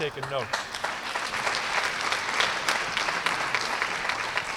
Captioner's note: applause